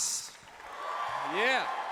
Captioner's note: applause